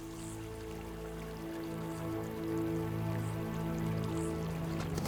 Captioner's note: none